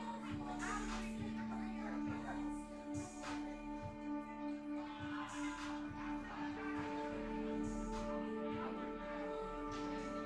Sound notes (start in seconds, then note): 0.2 tense music; 2.3 indistinct conversation; 3.4 tense music